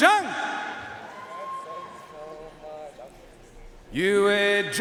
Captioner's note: audience cheering and applauding